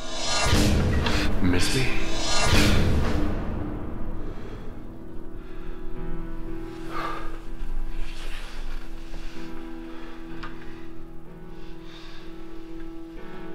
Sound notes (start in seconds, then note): 0.0 dramatic banging; 7.0 Jimmy exhaling